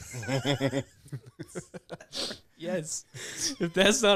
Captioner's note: laughter